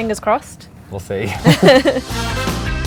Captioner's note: laughs; upbeat music